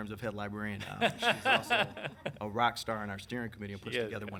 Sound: laughing

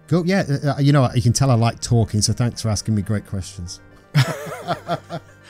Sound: laughter

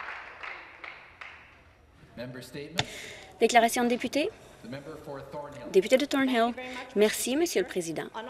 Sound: some Applause

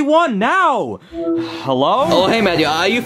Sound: phone chiming

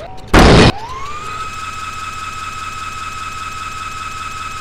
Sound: low-speed whirring

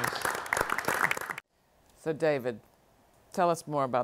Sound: applause

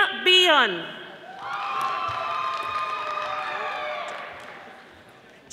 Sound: audience applauding

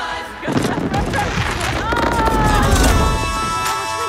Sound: fireworks banging

